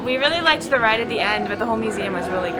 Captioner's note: laughs